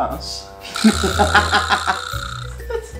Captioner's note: nose-blowing